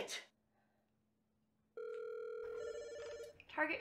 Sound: phone rings

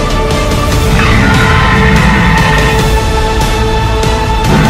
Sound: Indominus Roaring

